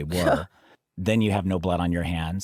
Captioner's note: scoffs